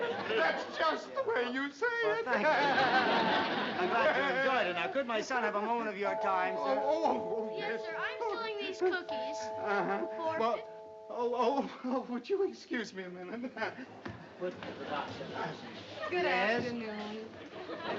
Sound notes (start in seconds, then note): 6.0 doorbell ringing